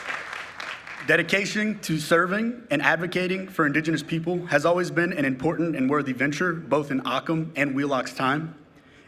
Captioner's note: applause